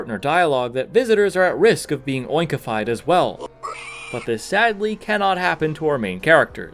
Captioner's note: Pigmask squeal